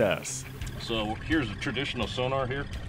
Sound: boat engine idling

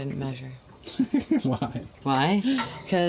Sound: laughing

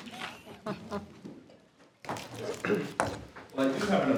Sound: group chuckles

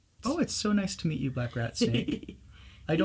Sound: laughs

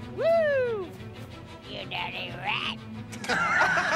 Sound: gravelly voice; laughter

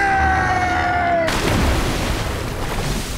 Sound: splashing

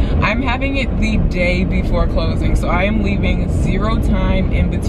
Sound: none

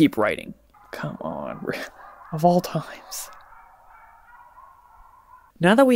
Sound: dogs barking

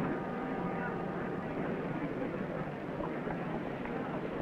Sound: crowd murmuring

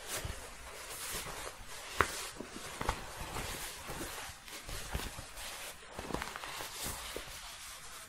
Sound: shuffling

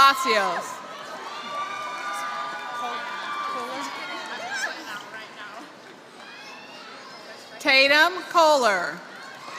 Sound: applause; applause

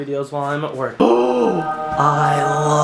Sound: gasps

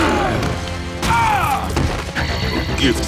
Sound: grunts

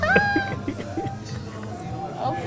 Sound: laughing

